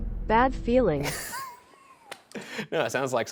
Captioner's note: Ryan laughs